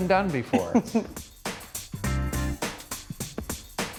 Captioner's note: laughs